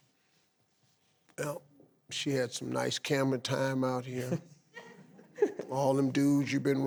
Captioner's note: giggles